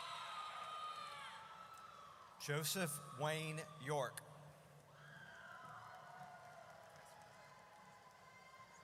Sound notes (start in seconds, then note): 5.0 audience cheers